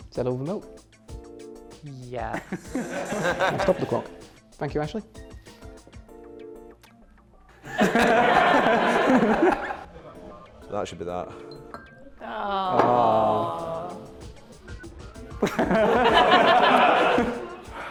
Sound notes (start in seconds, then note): 2.3 laughter; 7.6 laughter; 15.4 laughter; 17.6 sighs